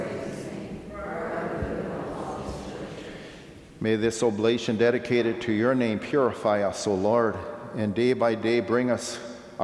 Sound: off microphone

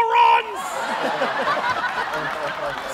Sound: laughter

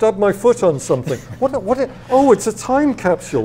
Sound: laughs

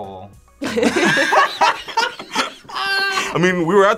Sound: group laughs

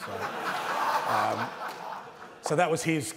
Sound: laughter

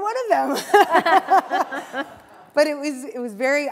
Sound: laughter

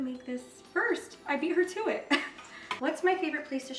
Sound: chuckles

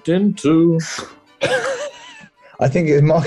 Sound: sniggering

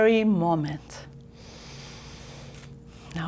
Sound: deep breath

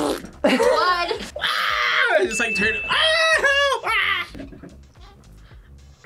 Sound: yells

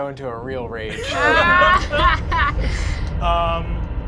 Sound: laughing

